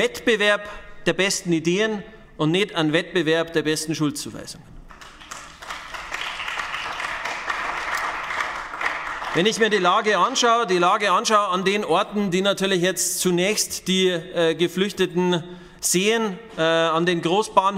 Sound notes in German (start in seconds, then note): 4.8 Beifall bei den GRÜNEN